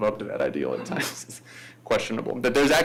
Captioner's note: laughs